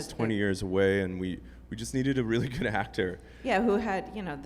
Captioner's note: laughs